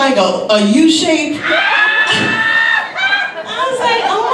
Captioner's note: audience laughs